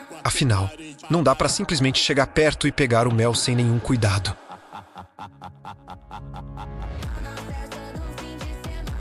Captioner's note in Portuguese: risadas